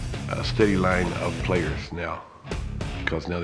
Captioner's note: none